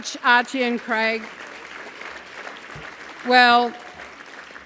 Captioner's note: applause